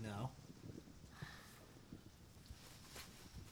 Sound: sighs

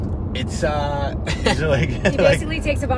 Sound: laughs

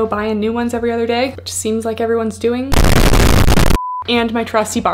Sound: beep

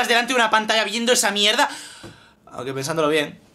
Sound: sigh

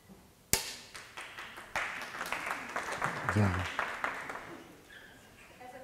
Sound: applause

